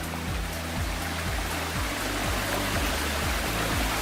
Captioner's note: stream sounds